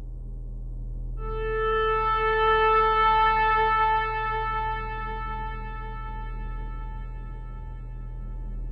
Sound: sharp horn

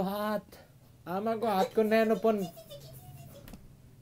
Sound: imitaing the teacher

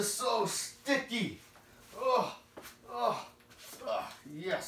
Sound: groaning noises

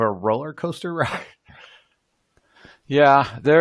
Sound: slight sigh

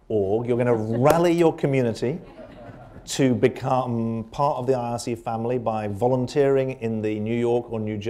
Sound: laughter

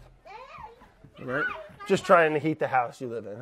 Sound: kids mumbling

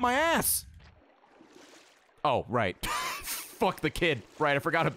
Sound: laughs

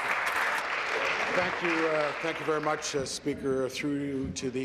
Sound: applause

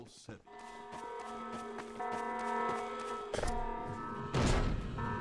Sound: alarm goes off

